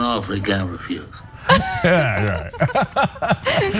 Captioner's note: laugh